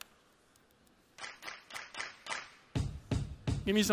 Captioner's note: clapping